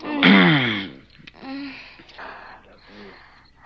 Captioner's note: moaning